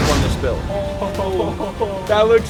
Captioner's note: chuckles excitedly